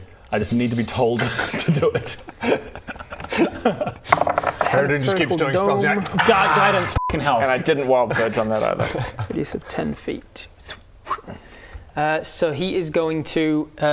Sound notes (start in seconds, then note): 1.3 well-meaning laugh